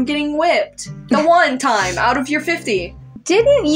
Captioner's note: chuckle